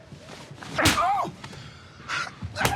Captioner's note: slap; gasp; slap